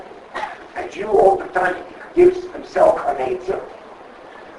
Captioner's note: coughs